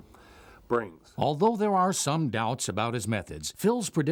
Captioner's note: voiceover